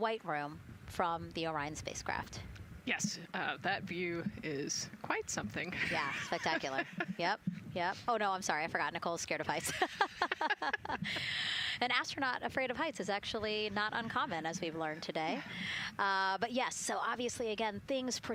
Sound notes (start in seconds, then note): 11.5 laughter